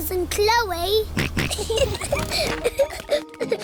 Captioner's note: snorts; kids giggling